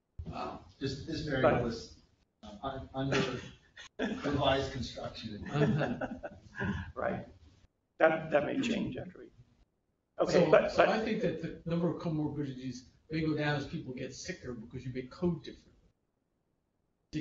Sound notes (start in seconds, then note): 5.4 laughter